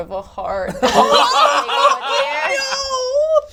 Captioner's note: all laugh